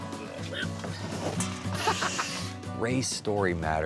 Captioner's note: laughs